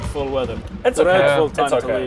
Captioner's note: thunder